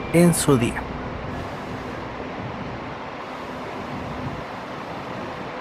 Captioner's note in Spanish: sonido ambiente del bus ETM en el terminal